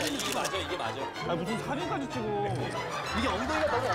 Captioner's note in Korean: 찰칵